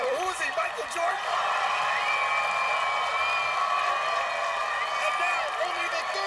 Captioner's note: cheers and applause